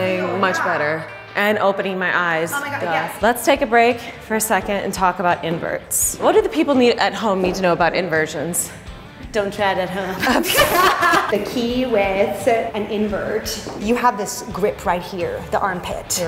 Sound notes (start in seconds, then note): 10.0 laughing